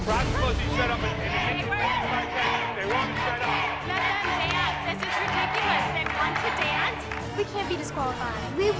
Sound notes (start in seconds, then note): 0.7 audience chanting "Let them dance!"